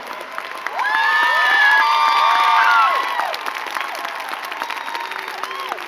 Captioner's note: crowd cheering and clapping